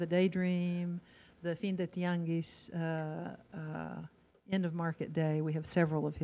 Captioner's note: in foreign language